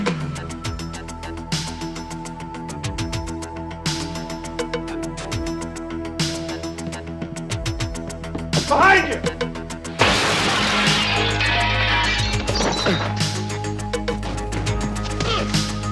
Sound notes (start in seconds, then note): 10.0 glass crashes; 12.6 dramatic music